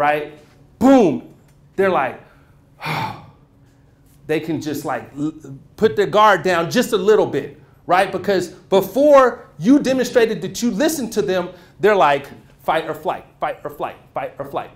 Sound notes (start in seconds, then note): 2.2 exhales